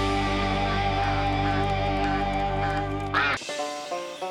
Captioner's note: quacking